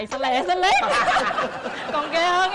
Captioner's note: laughing